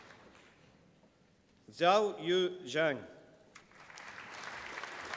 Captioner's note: applause